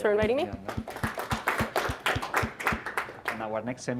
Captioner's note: applause